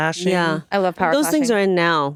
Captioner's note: none